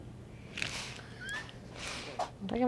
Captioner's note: laughs